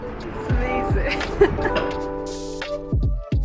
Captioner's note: laughing; chill music